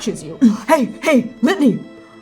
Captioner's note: grunting